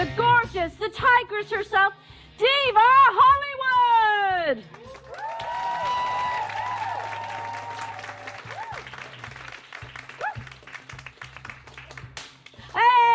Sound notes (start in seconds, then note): 8.6 applause